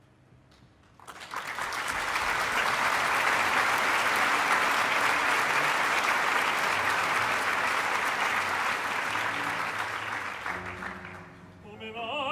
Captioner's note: applause